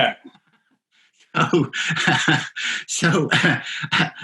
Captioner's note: laughing